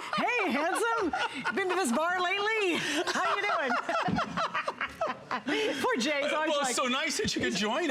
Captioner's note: laughter